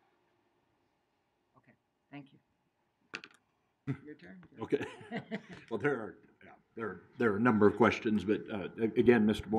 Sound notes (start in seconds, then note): 4.6 laughing